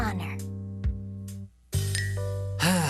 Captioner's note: sighs